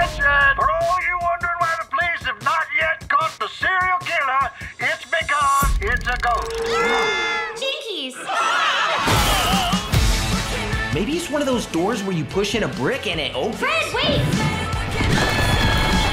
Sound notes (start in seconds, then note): 6.3 people screaming; 6.5 grunting; 8.1 all screaming; 14.7 velma yelling